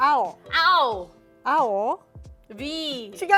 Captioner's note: speaking Japanese